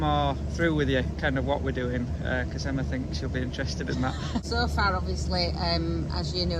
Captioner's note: laughing